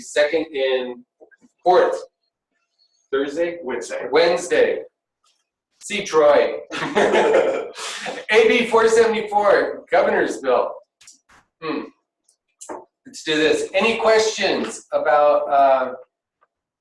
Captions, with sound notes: second and fourth Thursday? - Wednesday. See Troy. (laughing) AB 474, the Governor's Bill. Let's do this, any questions about